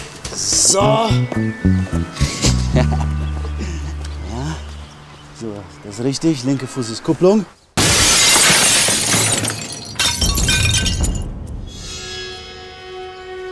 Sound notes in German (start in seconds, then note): 2.2 lacht; 8.1 Lautes Klirren; 11.4 Ernste Musik